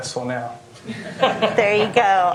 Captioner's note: laughter